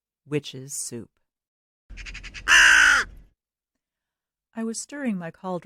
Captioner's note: raven Call